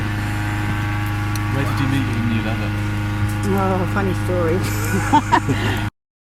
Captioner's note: laughter